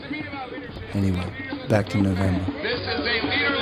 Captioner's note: voiceover